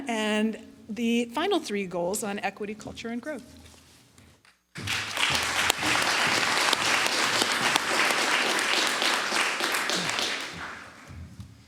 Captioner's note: applause